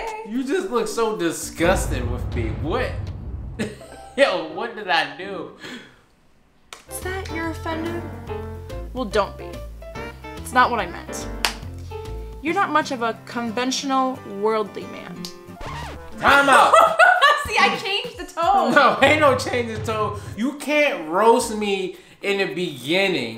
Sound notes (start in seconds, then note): 15.6 record scratches